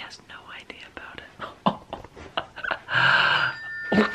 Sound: laughing

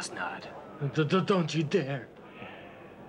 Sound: stuttering

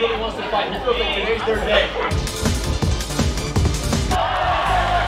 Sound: attendees yelling

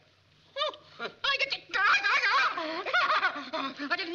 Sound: whimpering

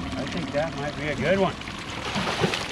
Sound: fish splashing

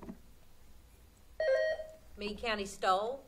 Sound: buzzer sounding

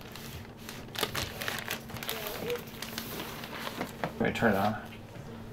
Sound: papers rustling

